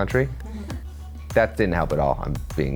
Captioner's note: audience laughs